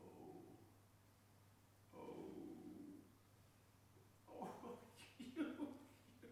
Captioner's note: laughing